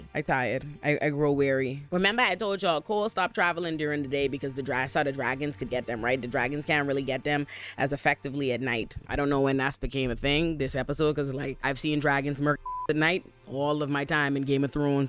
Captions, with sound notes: I tired, I grow weary. Remember I told y'all, Cole stopped traveling during the day because the dry side of dragons could get them, right? The dragons can't really get them as effectively at night. I don't know when that's became a thing, this episode, cause like I've seen dragons murk (beep) at night, all of my time in Game of Thrones.